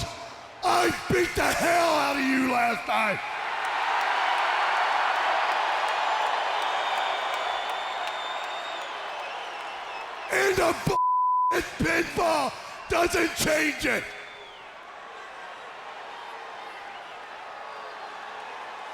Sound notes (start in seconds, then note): 3.4 audience cheers; 10.9 beep